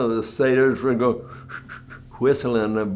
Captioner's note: whistles